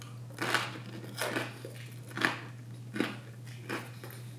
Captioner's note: cracker crunches